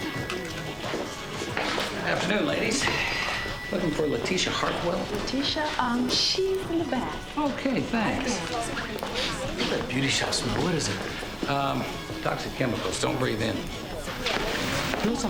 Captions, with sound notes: Afternoon, ladies. Looking for Lateesha Hartwell. - Lateesha? Um, she's in the back. - Okay. Thanks. (sniffing) - I love that beauty shop smell. What is it? - Um, toxic chemicals. Don't breathe in.